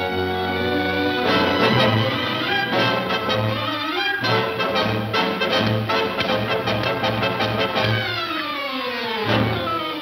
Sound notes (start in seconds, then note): 1.1 intense instrumental music; 5.2 dull thudding